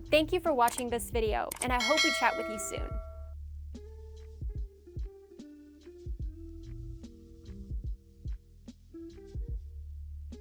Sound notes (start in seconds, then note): 1.7 bell ringing; 3.1 chill music